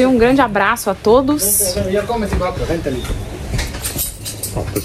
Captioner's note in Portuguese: falas em outro idioma